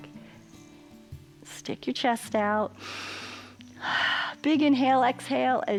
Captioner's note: inhales and exhales